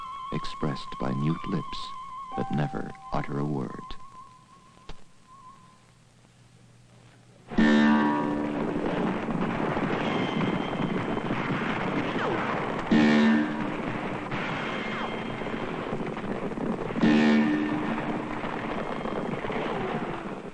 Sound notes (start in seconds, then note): 8.6 horse gallop on TV